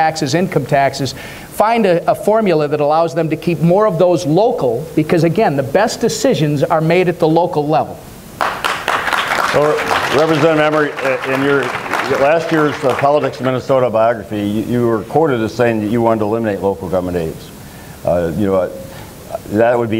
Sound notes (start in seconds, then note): 8.4 applause